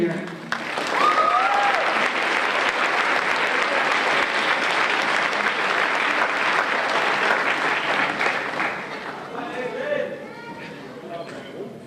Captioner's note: applause